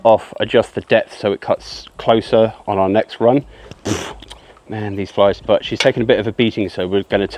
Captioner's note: pfffft